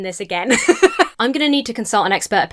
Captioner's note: laughs